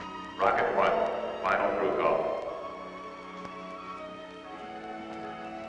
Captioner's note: loudspeaker